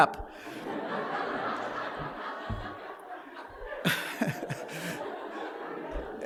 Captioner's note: laughter